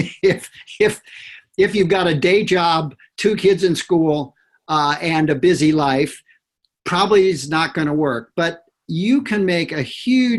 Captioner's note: laughter